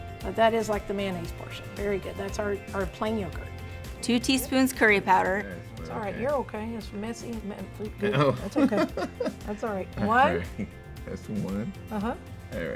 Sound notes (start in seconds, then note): 8.1 man chuckles